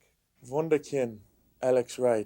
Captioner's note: speaking French